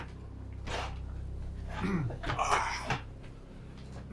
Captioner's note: person sighing